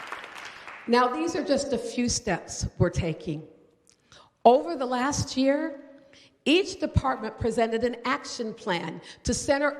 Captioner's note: applause